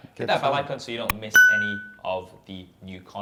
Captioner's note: bell rings